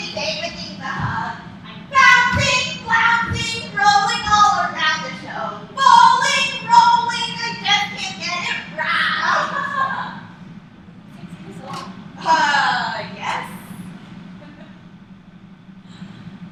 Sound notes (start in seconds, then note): 8.4 laughs